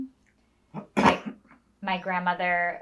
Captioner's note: coughing